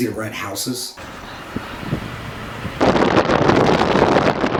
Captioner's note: wind crackling